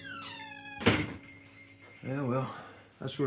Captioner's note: door creaks and thuds